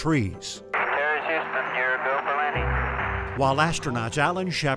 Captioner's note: radio chattering